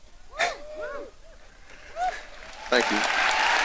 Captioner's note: audience cheering; audience applauding